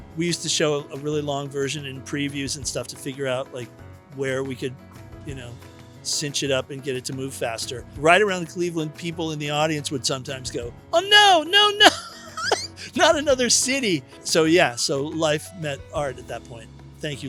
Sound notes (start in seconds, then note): 11.6 chuckles